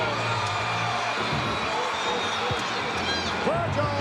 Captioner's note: audience cheering